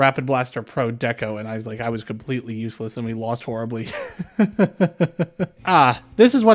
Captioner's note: laughter